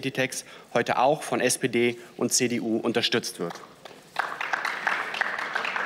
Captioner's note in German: Beifall